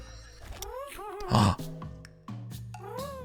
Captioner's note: gasps